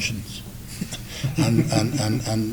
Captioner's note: laughs